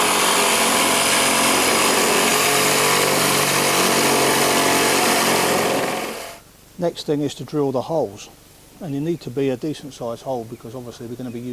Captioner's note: saw cutting